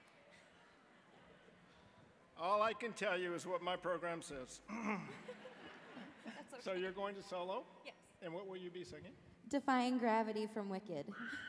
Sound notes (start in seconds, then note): 4.9 audience chuckling